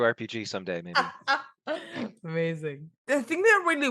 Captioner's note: both laugh